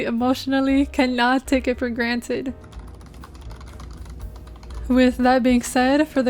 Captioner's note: keyboard asmr